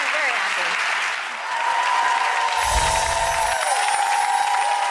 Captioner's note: audience applause